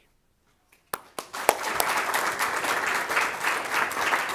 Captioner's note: all clapping